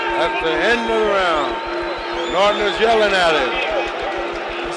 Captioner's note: bell sounds